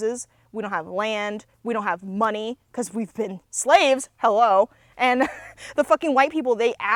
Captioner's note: laughs